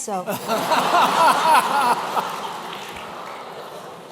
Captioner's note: laughter